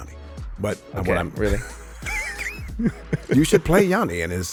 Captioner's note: laughs